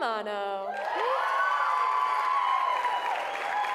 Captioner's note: applause